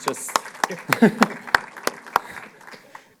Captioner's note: applause; laughs